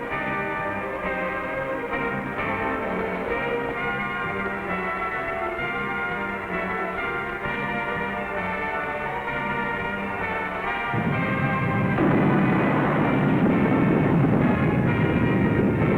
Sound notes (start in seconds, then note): 10.9 volcano blasts